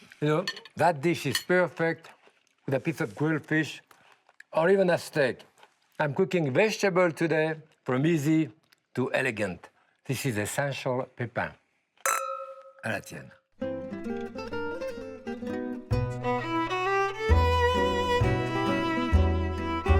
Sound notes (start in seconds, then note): 12.0 glasses clink; 13.6 upbeat string music